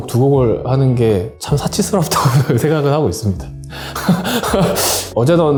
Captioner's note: laugh